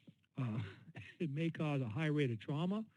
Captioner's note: chuckle